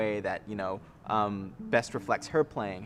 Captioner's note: none